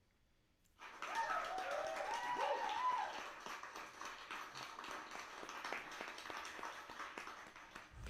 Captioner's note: applause and cheers